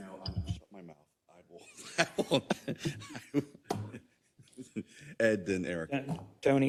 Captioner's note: laugh